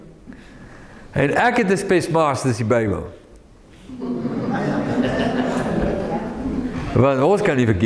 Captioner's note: audience laughing